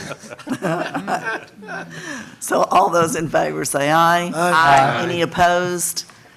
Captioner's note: laughter